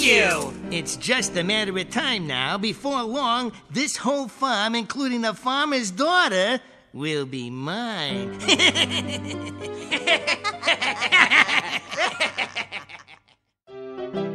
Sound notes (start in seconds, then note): 8.3 laughing; 13.7 piano playing